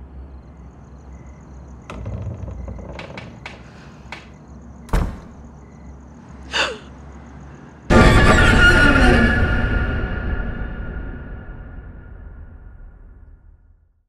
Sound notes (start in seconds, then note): 1.7 door creaking; 4.8 door closes; 6.5 gasps; 7.8 suspenseful music